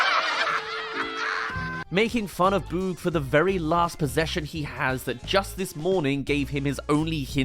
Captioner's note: laughs